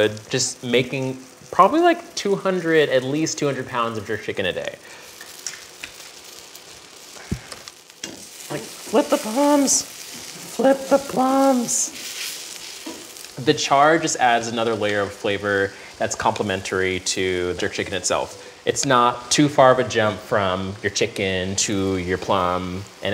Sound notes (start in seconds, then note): 6.3 pan sizzling